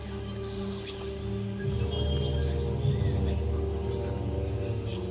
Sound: whispering Sounds

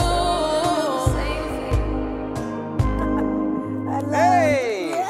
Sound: chuckles; laughs

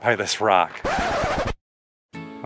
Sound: record scratching

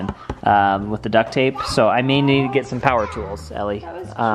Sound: none

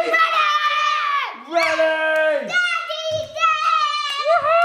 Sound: kids yelling excitedly

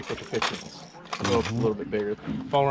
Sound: tackle clattering

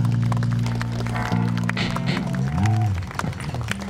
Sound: audience applauds

